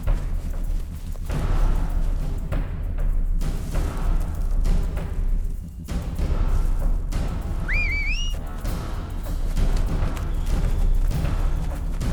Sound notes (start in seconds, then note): 7.6 whistles